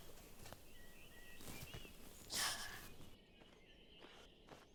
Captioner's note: birds chirping